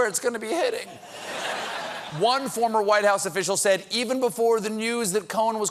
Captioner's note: laughter